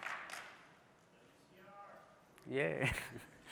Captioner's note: applause